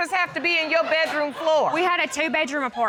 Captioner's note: audience laughing